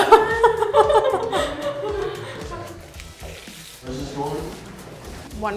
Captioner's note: all three laughing